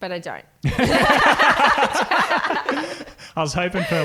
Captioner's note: laughing